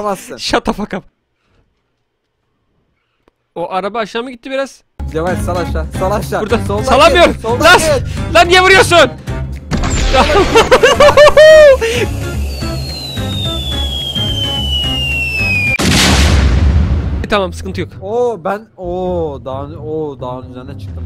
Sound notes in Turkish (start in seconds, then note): 15.8 kaaabooom